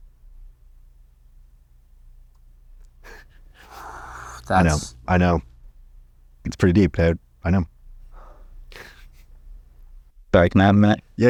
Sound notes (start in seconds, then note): 8.7 chuckles